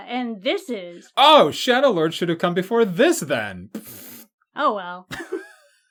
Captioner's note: dismissive raspberry sound; both laugh